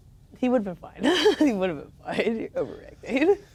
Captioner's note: laughing